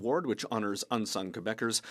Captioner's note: speaking French